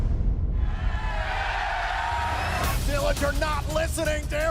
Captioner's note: cheers and applause